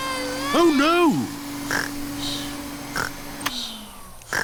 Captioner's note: snores; whirring stops